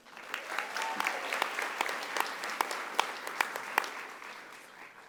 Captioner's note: audience applauding